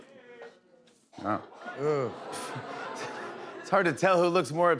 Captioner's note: audience groans